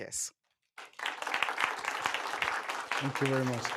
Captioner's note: applause